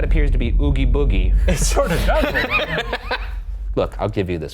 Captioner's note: both laughing